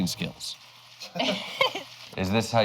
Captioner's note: both laugh